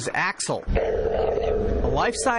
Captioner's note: dog growling